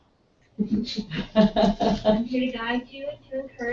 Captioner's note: laugh